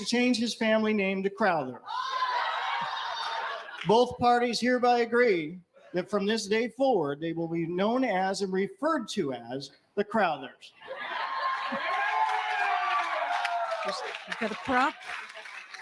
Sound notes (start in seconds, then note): 10.9 cheers & applause